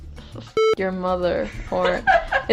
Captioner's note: beep